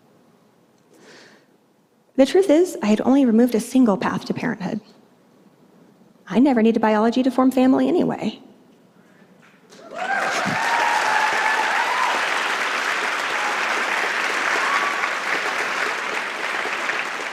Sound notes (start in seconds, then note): 9.7 applause